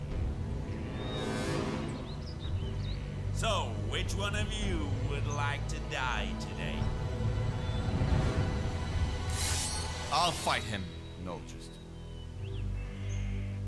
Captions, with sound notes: So, which one of you would like to die today? (sword unsheathing) - I'll fight him. - No, Tristan.